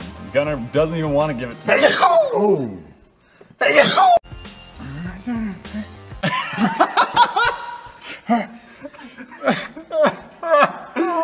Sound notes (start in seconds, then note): 3.6 sneezes twice; 6.1 all three laugh again